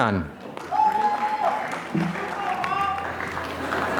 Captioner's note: applause